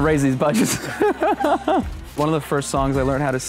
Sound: laughs

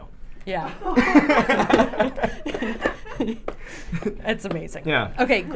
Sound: all laughing

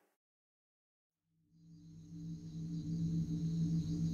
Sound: nature sounds

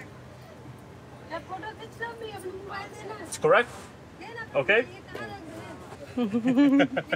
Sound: speaking in foreign language

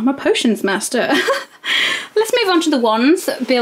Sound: laughs

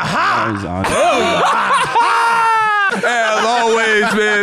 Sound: laughing

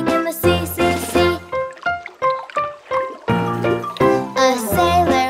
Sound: bright music; water burbles

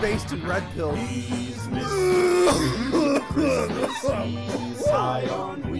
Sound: violent coughing

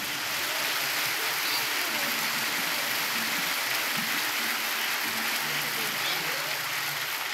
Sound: applause

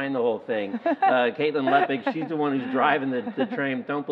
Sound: laughing

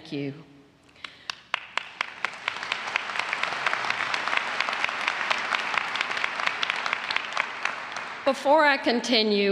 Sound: applause

